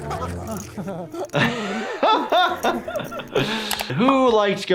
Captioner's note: laughing